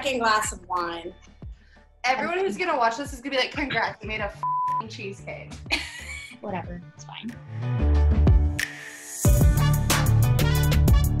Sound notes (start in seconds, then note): 4.4 beep; 5.6 laughs; 8.4 upbeat music